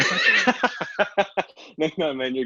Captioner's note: laughs